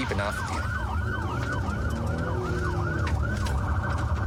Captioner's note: engine guns